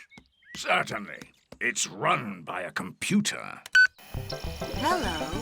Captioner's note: beeps